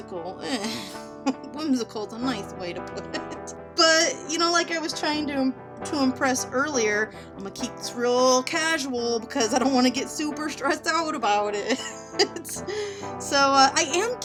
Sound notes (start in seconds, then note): 2.9 laughing; 11.7 laughing